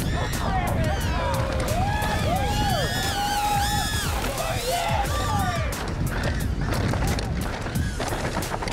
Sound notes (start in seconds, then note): 0.0 all cheering; 4.7 bright upbeat music